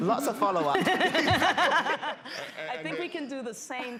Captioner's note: laughter